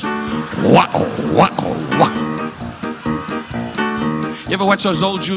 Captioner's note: Don imitates sandals squeaking